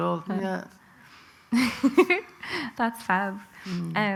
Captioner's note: soft laugh